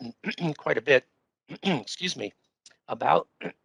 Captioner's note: throat clearing